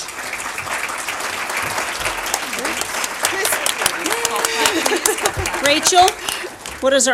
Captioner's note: applause